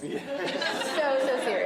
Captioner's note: laughter